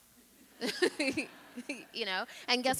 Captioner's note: chuckles; audience laughing